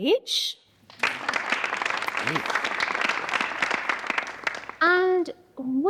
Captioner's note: audience applauding